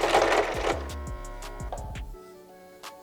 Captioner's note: sewing machine jams